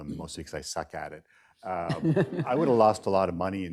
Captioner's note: laughter